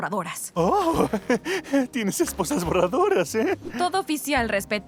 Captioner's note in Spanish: Risa nerviosa